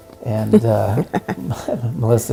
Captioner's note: laughs